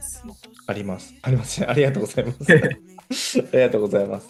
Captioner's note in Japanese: 笑い